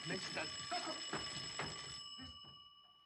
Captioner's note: ringing Continues